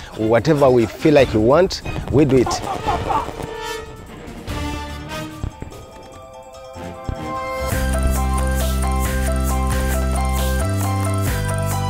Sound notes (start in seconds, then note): 2.5 gunfire; 3.6 suspenseful music; 8.0 upbeat music